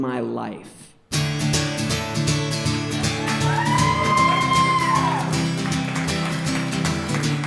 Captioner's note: audience cheering; guitar strumming